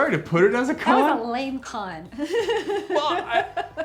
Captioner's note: laughs